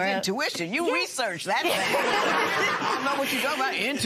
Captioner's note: laughter